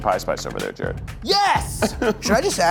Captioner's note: chuckles